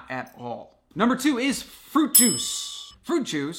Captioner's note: chime